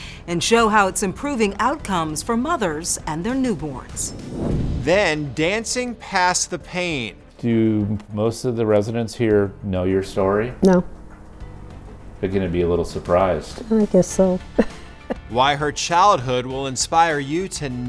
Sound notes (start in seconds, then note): 15.0 laughs